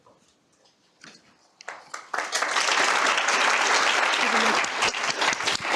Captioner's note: applause